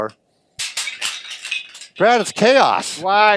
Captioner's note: crashing blocks